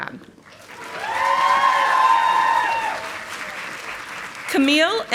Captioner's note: audience applauding